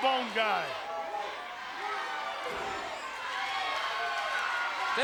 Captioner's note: crowd cheers